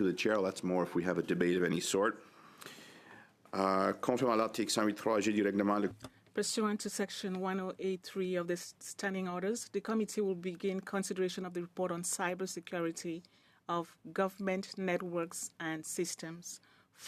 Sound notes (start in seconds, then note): 10.8 speaking in French